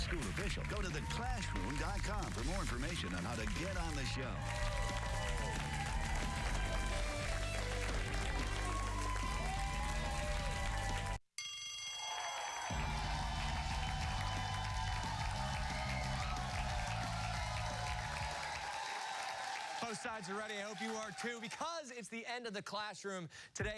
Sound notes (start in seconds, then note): 14.3 bell rings; 15.3 cheers and applause